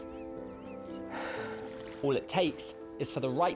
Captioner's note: sighing